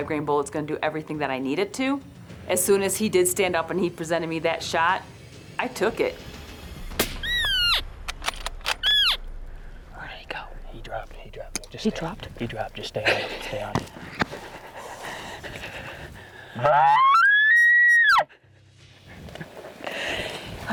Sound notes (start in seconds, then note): 6.9 rifle fires; 8.8 elk call chirping; 16.6 elk call bugling